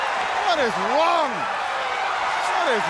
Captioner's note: crowd cheering